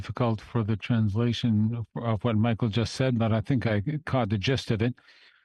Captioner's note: speaking French